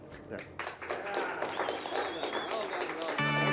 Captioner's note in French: applaudissements